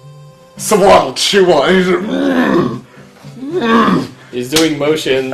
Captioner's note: medibot makes chewing noises